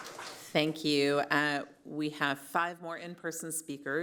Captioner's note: applause